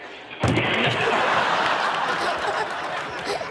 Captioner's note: all laughing; trash can bangs; audience laughs; Chanel and audience laughing